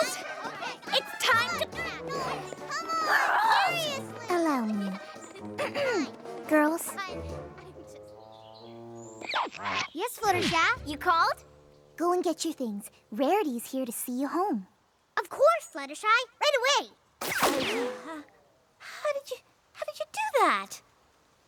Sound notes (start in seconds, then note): 2.7 sighs; 5.6 clears throat; 7.6 silence